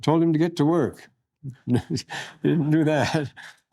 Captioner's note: laughter